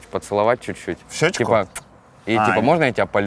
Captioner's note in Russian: причмокивает